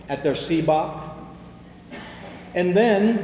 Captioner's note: attendee coughs